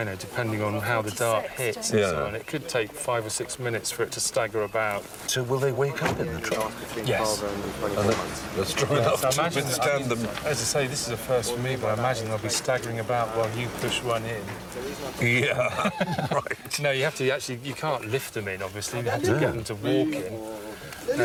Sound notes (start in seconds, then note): 15.2 laughs